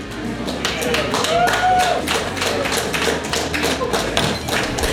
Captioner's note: crowd cheering